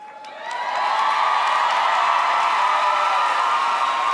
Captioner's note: audience cheers